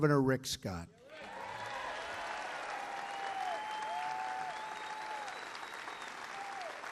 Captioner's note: applause